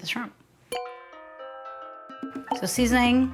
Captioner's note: gentle string music; bell dinging